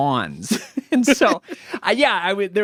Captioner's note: laughing